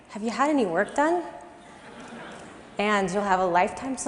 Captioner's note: laugh